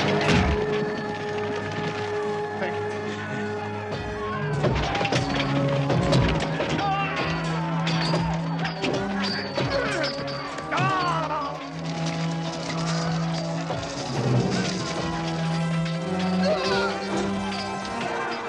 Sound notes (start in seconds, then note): 1.6 hitting; 6.4 hitting; 6.4 yelling